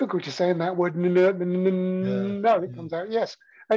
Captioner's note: stammering